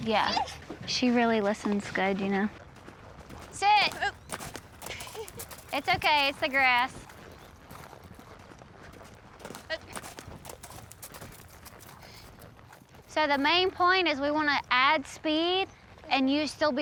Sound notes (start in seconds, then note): 4.8 laughs